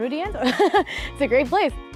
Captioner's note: laughing